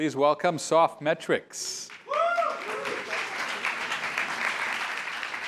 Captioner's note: applause